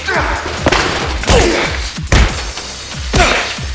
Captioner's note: body slamming; knee pounding; fist pounding